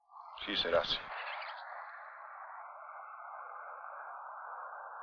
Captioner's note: speaking foreign language